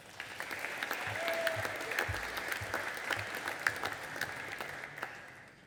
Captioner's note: audience applauding and cheering